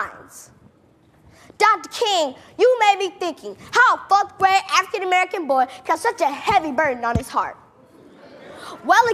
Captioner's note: laughing